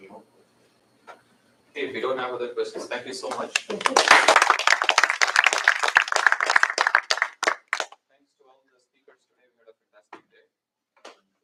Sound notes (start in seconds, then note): 3.3 applause